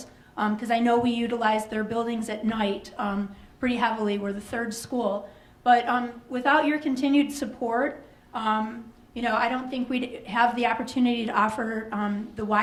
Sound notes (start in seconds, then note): none